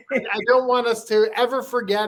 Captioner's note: laughs